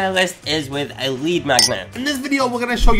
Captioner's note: magnet clinking